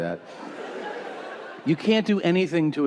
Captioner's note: audience laughing